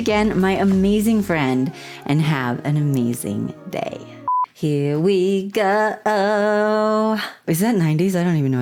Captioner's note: blooper beep; singing